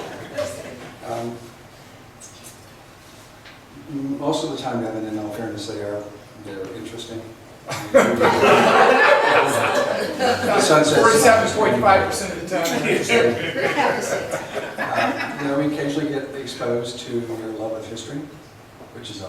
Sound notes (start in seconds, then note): 8.8 laughs; 11.8 voiceover; 14.0 laughs